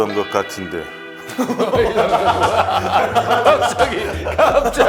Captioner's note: bwahahaha